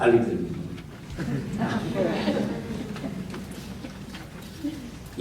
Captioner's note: audience giggles